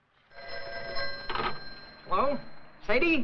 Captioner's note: phone rings